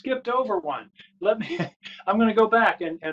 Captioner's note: laughter